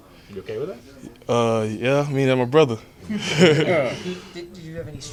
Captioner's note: laughs